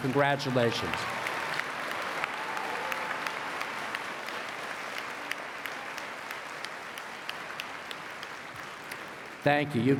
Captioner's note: applause